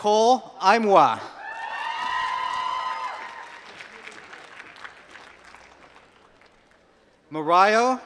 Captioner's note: applause